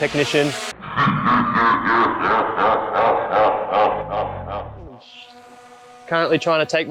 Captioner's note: evil laugh